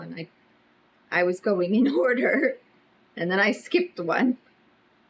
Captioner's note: laughs